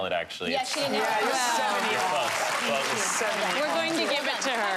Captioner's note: cheering and applause